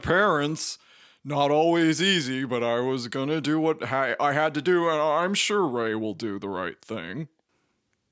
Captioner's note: stammers